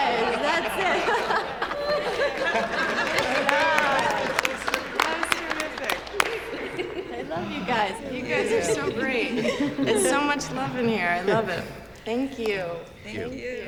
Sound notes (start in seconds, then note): 0.2 chuckles; 4.2 applause